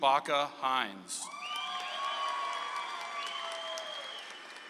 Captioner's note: audience applauds